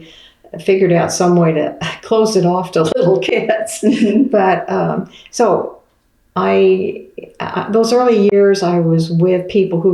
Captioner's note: laughs